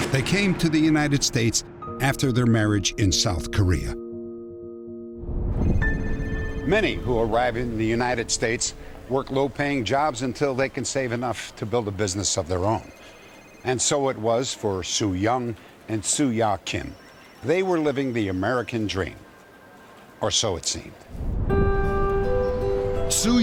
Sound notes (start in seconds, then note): 5.3 phones ringing; 6.2 piano key